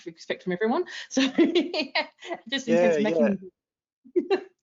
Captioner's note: laughs